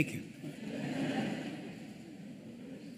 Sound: laughter

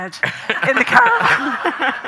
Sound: audience laughing; Graham laughing

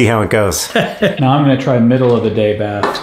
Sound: laughs

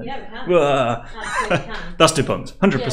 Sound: laughing

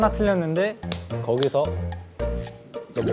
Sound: snap

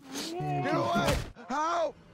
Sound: smack

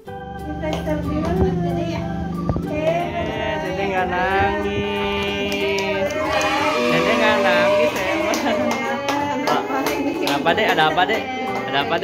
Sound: laughs

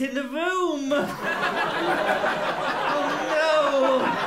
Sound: laughter

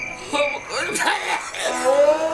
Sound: coughing

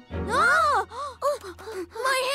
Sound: both gasp

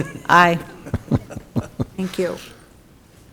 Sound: men chuckling

